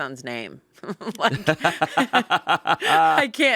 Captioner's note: everyone laughs